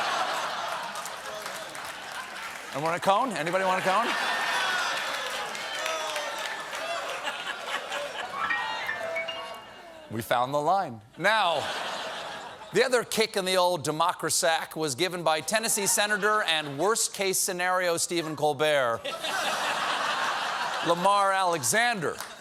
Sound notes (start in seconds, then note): 0.0 laughter; 5.5 audience reacts; 5.5 piano riff; 11.4 laughter